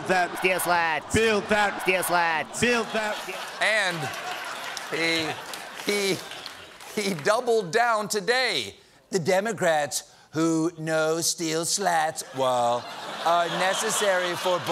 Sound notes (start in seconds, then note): 7.3 laughter